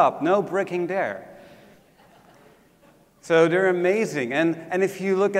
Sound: laugh

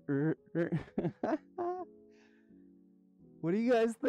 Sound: nerdy laughter

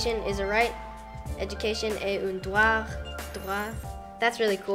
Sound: speaks in French

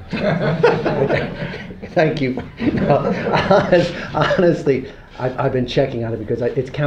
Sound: laughter

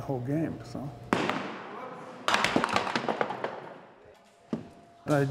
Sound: ball rolling down aisle and hitting pins

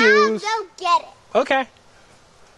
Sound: voiceover

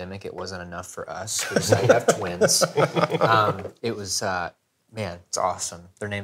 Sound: laughing

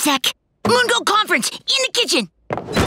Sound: none

